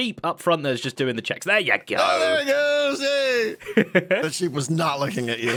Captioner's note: laughs